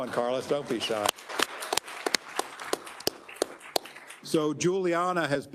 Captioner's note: attendees applauding